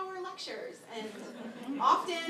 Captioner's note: laughter